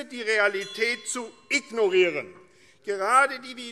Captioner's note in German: Zurufe - Glockenzeichen